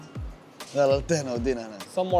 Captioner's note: in Arabic